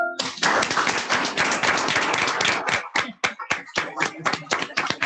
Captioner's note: congregation applauding